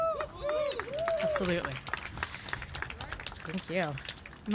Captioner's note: cheers and applause